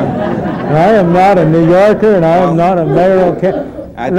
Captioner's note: laughter